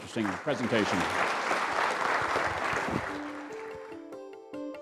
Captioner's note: audience applauding; electronic synthesizer music